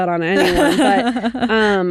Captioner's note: laughing